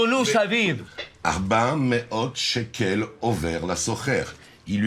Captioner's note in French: Hebrew spoken language